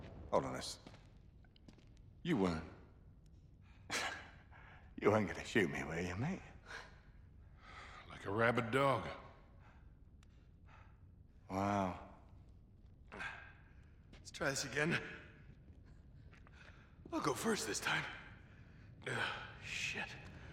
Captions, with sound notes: Hold on a s- You weren’t... (laugh) ...you weren’t gonna shoot me, were ya mate? Like a rabid dog. Wow... Let’s try this again. I’ll go first this time. Ugh, shit.